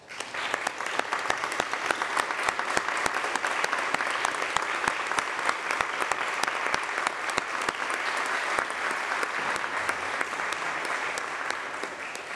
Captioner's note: applause